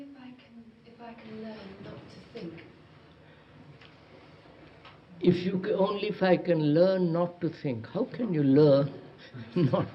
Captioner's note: chuckles